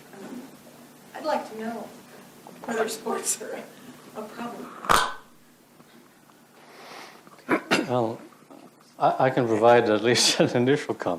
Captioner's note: adjusting mic